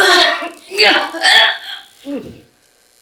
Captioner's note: groaning